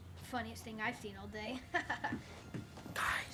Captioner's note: laughs